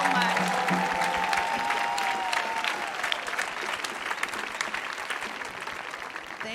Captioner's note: clapping